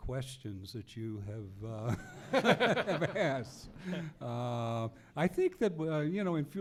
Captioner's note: laughs